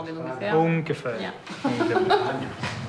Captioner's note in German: lacht